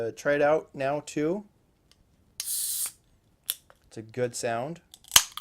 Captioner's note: can top opens with a hiss